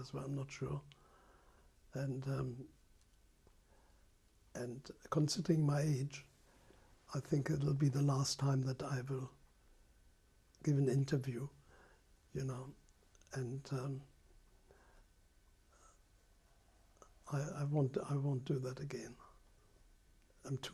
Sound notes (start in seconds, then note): 13.9 pauses for 3 seconds